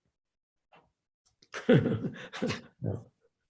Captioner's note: laughs